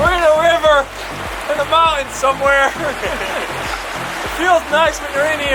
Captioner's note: laughing